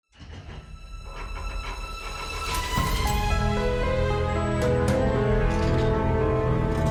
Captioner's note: vault mechanism clanking; intriguing music